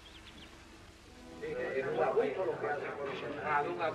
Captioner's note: spanish conversation